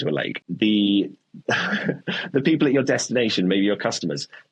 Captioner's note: chuckles